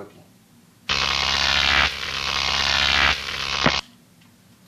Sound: electricity sound

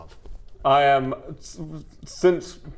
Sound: splutters

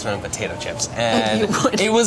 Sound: laughs

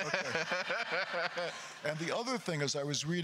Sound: laughs; crowd laughter

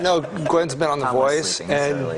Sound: laughter

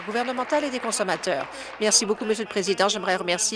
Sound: applause

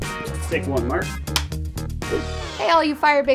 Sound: claps clapperboard

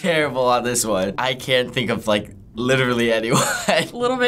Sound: chuckles

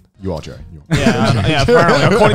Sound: both laughs

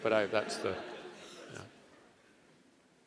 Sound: laugh

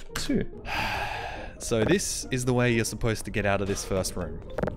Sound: sigh

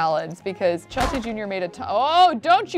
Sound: fridge door slams

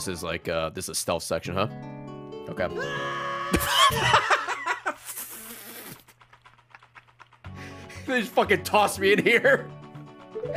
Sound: screams; laughs; laughs

